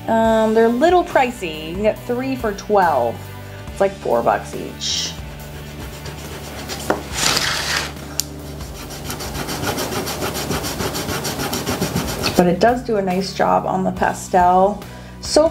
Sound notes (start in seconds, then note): 4.8 eraser rubbing; 7.3 drawing paper scrapes; 8.9 eraser rubbing